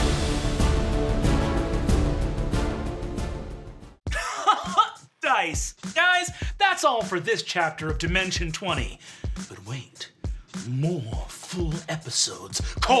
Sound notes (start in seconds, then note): 4.1 laughing